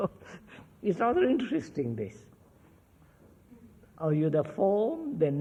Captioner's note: laughs